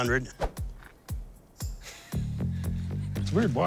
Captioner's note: laughs